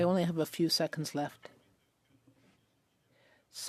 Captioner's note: speaking French